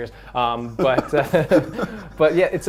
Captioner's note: both Laughing